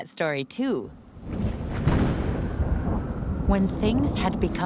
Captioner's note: thunder